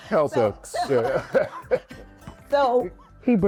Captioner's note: laughing